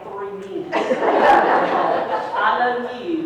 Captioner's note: people laughing